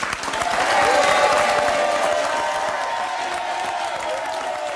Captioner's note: audience applauding